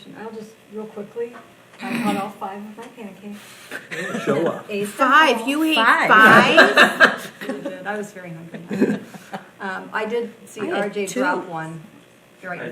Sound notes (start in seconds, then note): 3.9 people laughing